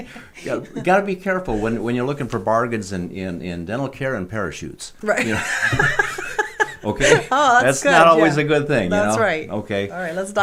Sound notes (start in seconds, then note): 5.2 laughing